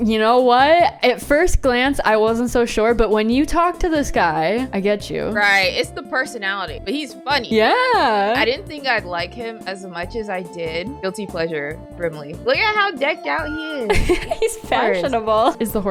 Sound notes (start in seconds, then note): 13.9 laughs